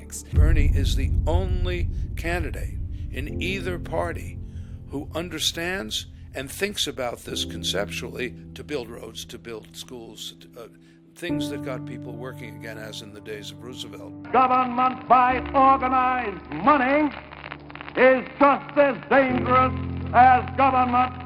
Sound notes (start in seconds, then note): 14.4 voiceover